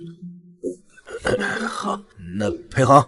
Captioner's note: cough cough